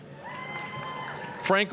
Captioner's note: applause, cheering